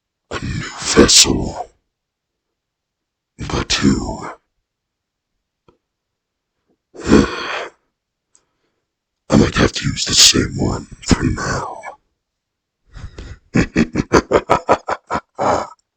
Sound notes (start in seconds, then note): 7.0 sigh; 13.0 more laughter